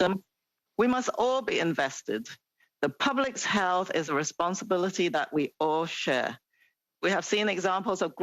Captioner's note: speaking French